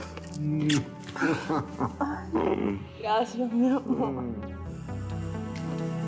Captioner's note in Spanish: Risas